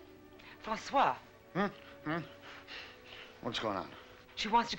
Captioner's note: Francois mumbling